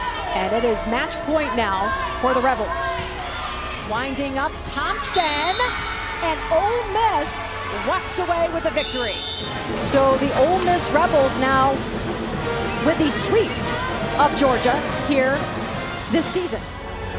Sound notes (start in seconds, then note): 5.0 whistle blows